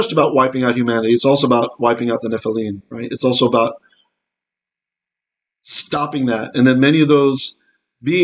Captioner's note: Hebrew